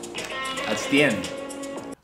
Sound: clap

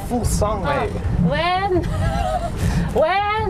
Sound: hehehe

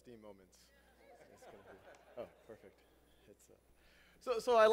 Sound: laugh

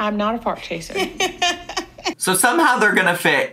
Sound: laughing

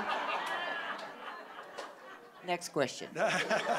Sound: audience laughing

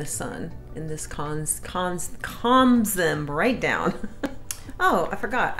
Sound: laughs

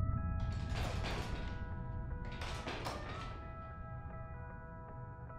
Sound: chair rattles

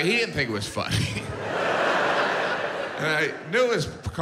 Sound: audience laughs

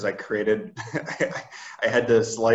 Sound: laughs

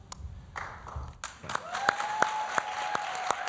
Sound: applause

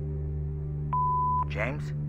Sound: beep

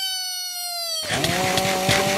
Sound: crunch nom eat

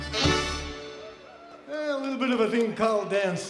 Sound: crowd applauds

